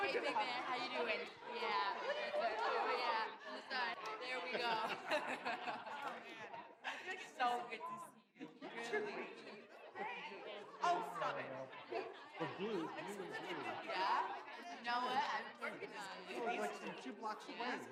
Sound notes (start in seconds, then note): 1.0 chatting continues